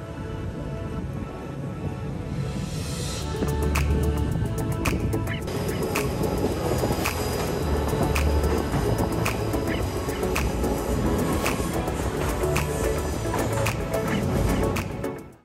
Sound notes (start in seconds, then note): 0.0 wind blowing; 5.3 wind howling